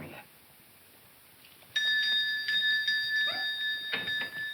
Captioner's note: bell ringing